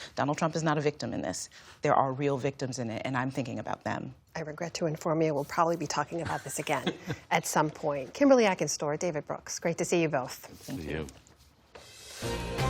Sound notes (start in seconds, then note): 6.2 laughter